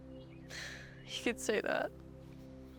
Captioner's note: sighs